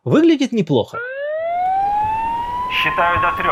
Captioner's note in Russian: Звук сирены